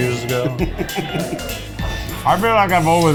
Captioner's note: laughs